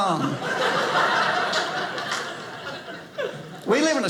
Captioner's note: audience laughing